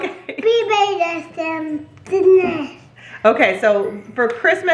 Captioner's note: speaks gibberish